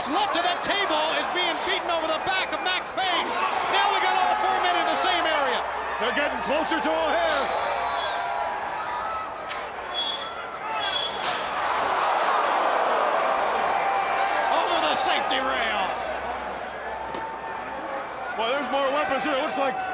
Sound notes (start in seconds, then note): 9.5 crowd cheering